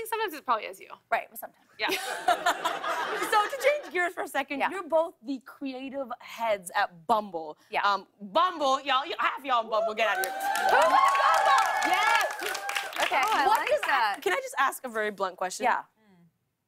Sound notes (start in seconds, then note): 1.8 laughter; 10.0 cheers and applause